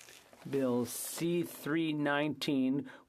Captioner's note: speaking FRENCH